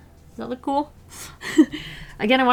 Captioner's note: laughs